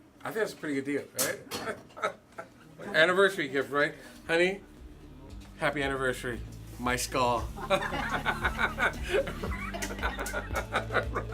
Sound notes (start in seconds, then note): 7.6 laughing